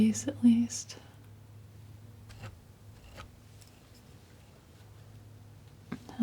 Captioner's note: scratching